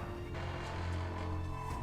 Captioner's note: door creaking